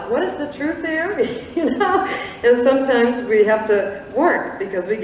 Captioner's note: chuckles